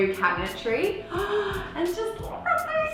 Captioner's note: gasp